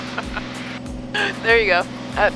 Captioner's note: laughs